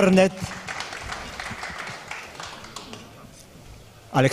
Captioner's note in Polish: oklaski